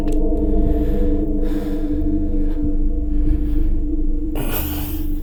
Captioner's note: breathing deeply